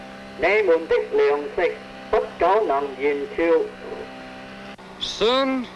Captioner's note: speaking foreign language